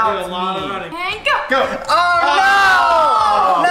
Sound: disappointed yelling

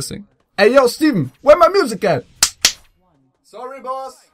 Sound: clap, clap

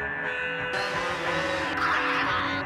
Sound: chainsaw buzzing; Tasmanian devil shrieking

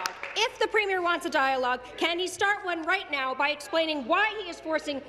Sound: applause

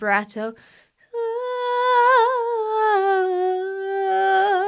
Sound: vocalizes

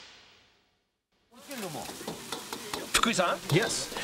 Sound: speaking chinese

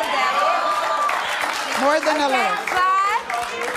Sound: audience cheering

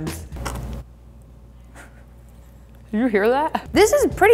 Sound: meat crunches

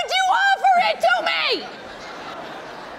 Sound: audience laughing

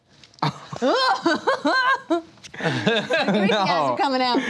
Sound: laughter

